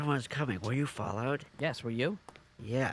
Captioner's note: door opens